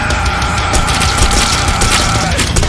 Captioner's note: delightful splattering